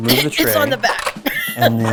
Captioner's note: coughs